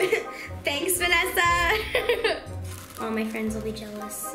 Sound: laughs

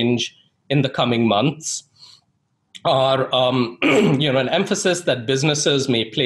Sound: clears throat

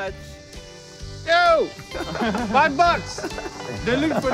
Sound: both laugh

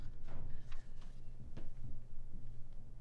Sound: thuds; footsteps

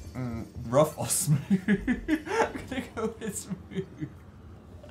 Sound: laughs

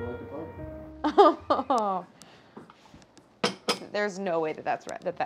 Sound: Claire chuckling uncertainly

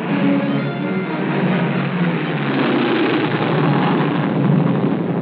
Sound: aircraft Noise

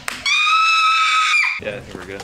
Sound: screams

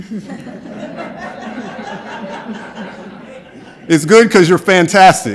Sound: laughter

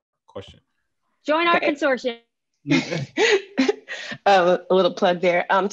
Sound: laughing

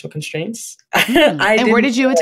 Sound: laughs

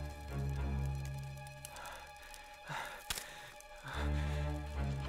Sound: breathing heavily

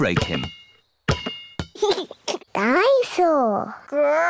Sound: giggles

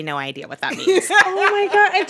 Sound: laughter

